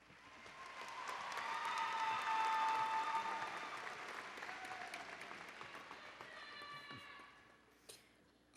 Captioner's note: applause and Cheering